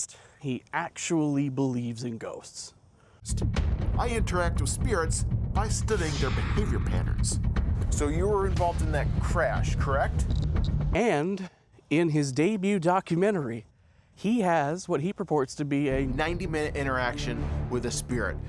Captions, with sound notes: He actually believes in ghosts. "I interact with spirits by studying their behavior patterns." "So you were involved in that crash, correct?" [K2 meter clicking] And in his debut documentary, he has what he purports to be a "90-minute interaction with a spirit."